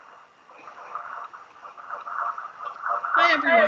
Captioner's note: audio feedback